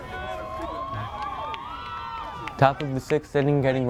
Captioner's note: crowd cheers